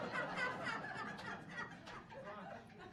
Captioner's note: audience laughing